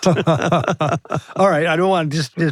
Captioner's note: both laughing